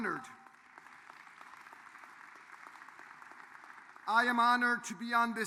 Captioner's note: applause